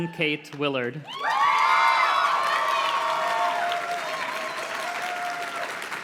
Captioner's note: audience cheers and claps